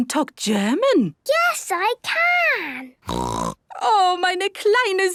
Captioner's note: snorting; speaking German